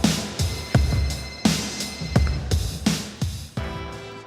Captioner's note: phone rings